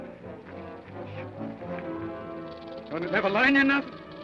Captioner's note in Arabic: خشخشة الثعبان